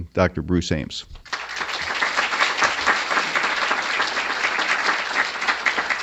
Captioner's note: applause